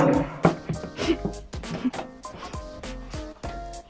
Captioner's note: laughs in Lithuanian